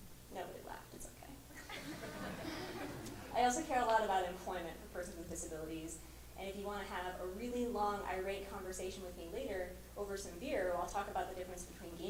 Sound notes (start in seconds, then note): 1.5 laughter